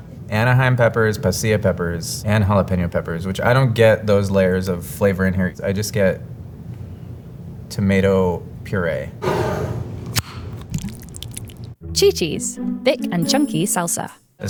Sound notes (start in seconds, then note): 9.3 jar sliding; 9.3 lid opening; 10.4 salsa pouring